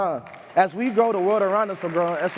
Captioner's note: crowd clapping